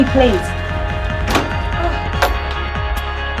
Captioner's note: door shuts